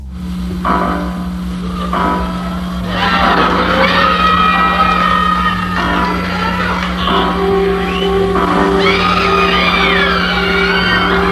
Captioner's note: audience screaming